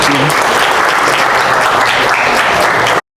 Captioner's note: applause